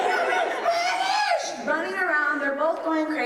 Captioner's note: yelling